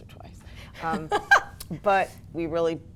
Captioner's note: laughs